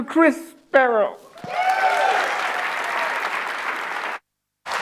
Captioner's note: audience applauds